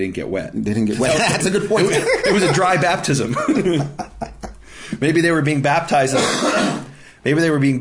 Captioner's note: laughing; laughing